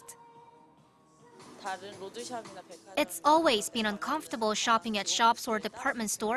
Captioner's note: Korean